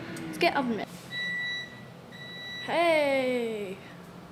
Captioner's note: beep beep